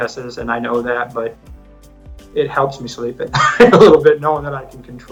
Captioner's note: laughs